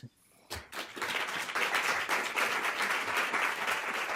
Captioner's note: applause